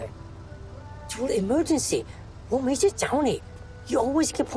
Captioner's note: speaking in foreign language